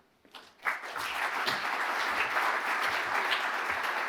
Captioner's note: audience applauding